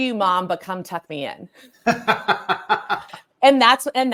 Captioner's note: laughs